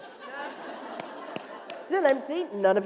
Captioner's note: laughter